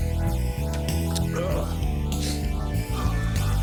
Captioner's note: groans